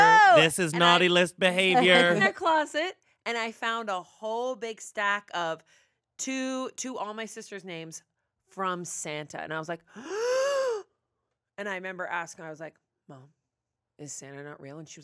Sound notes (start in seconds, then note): 10.1 gasps